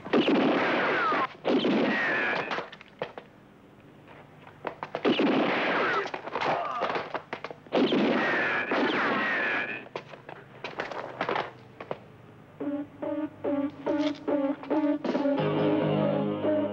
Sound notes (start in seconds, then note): 0.0 guns blasting; 6.6 man grunts; 7.6 guns blasting; 12.4 dramatic, suspenseful music